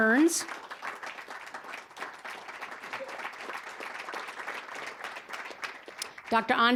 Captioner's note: applause